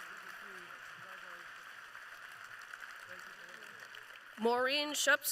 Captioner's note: applause